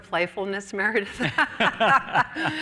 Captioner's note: laughter